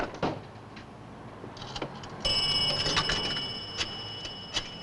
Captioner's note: phone Dings